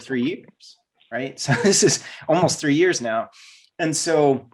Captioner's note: laughs